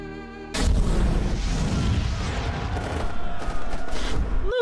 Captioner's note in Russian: звучат выстрелы, звук горящих предметов